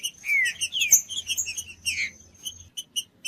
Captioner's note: trinca ferro cantando